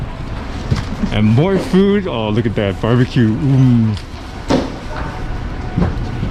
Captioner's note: Mark Wiens moaning sound